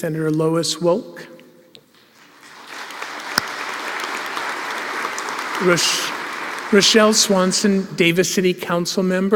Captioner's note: applause